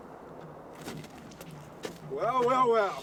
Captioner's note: footsteps crunching